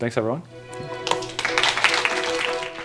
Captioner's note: applause